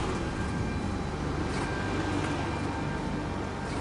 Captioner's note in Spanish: Ruido de motores